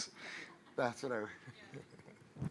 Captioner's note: audience laughing